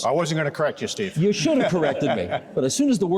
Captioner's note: chuckling